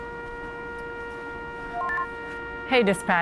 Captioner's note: radio beeps